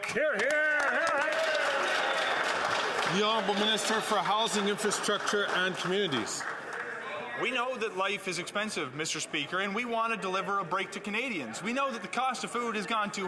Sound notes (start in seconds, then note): 6.9 some Applause